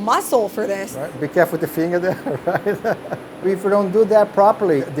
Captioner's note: laughs